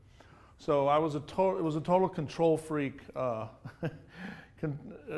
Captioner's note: laughs